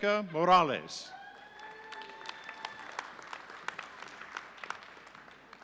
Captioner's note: audience applauding